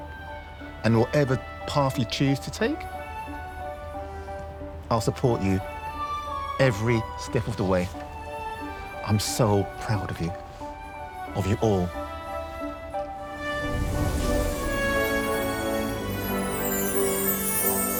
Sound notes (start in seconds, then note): 12.2 enchanted music; 13.4 meteor whirring